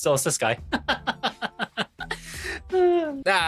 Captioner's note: laughing